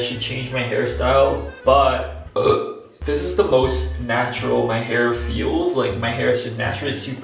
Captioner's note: burps